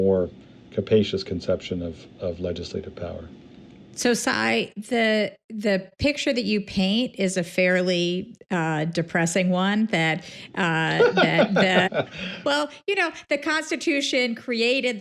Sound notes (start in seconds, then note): 10.7 laughs